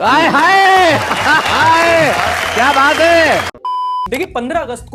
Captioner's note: clapping